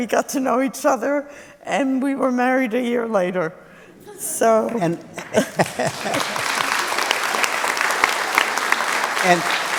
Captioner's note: laughter; applause